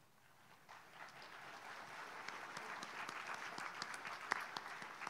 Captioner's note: audience applauds